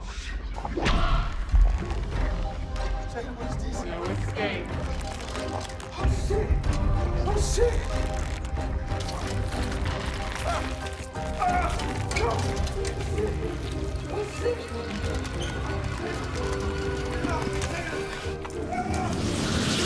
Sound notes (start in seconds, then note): 1.5 tense music; 8.8 tense music; 11.4 Malik yelling; 18.4 yells